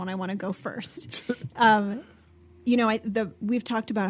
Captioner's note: laughing